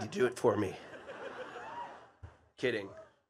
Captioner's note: attendees laughing